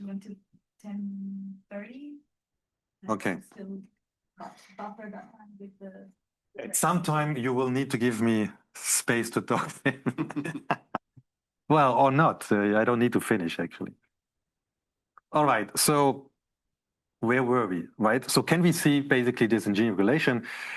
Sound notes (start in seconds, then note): 9.8 laughs